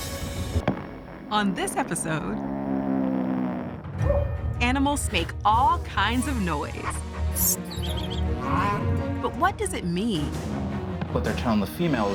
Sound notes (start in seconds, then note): 1.9 loud hum, owl hoots; 7.6 squeaking, chirping, bellowing